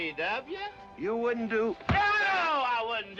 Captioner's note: thump